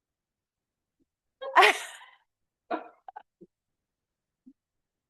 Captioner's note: laughter